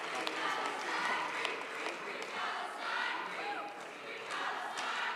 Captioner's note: students chanting